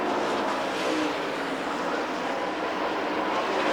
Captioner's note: engines whine